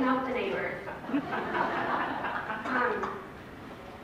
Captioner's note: laughter